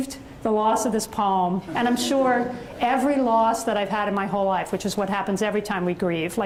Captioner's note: audience chuckles